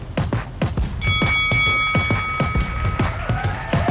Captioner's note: bell dings; people cheering